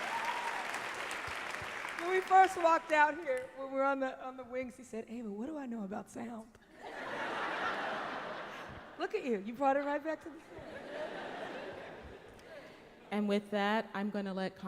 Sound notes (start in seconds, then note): 6.7 laughter; 10.4 laughter